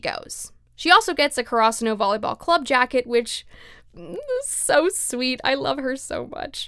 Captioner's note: sob noise